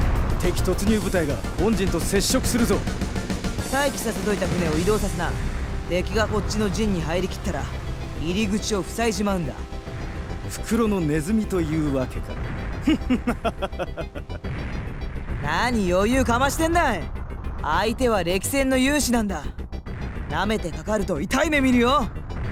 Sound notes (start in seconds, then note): 12.8 confidently evil laugh